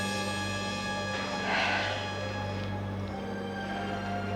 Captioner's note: sighs